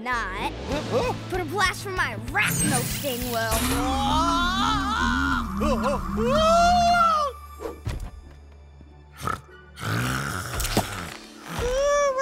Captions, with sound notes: Huh? Oh? But a blast from my arachno-sting will. [SHRIEKING] [SNORING]